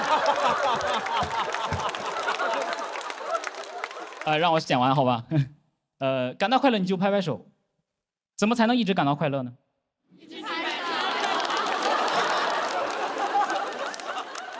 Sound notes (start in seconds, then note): 10.4 keep clapping